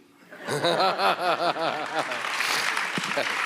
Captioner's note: audience laughs; laughs; audience applauds